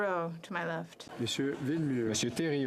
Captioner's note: speaking French